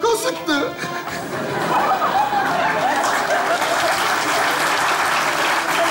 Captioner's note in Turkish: Kahkaha ve alkış sesleri